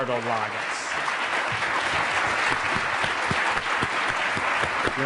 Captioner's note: applause